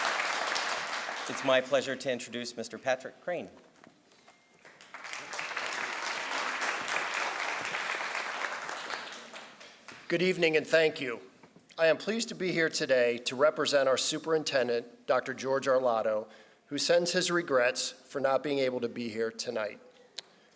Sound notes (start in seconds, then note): 4.6 crowd applauds